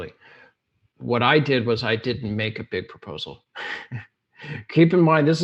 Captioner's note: laughs